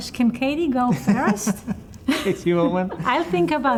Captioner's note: laughs